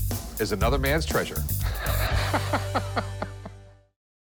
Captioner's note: laughs